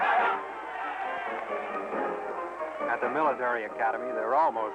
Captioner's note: cheering